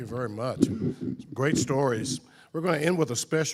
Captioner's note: microphone creaking